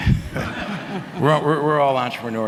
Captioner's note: people laughing